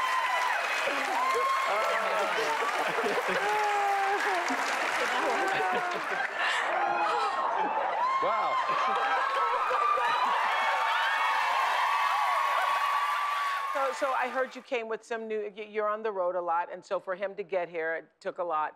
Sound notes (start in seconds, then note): 0.2 cheering continues, laughter; 4.5 applause; 10.9 cheering resumes